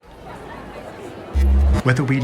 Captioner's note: crowd chattering